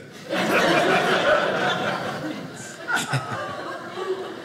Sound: audience laughing

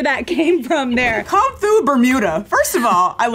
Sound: laughs

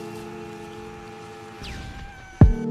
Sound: screams in exhaustion; hat flies off with a pop

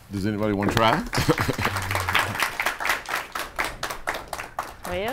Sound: audience applause

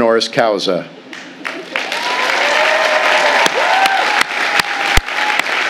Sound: audience applauding

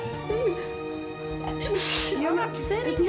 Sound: sneeze

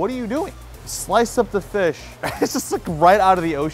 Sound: laughs

